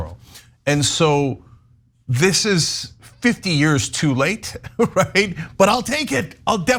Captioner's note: laugh